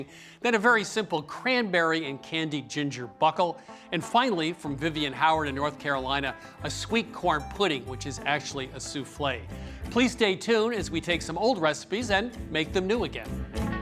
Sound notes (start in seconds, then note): none